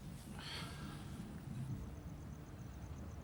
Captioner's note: sighs